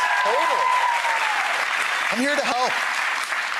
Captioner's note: audience applause